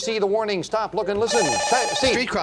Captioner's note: beep